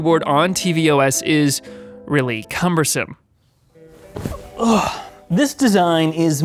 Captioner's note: groans